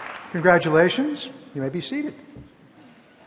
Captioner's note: applause